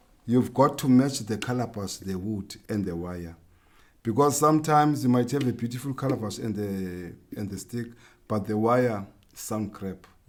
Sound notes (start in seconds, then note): none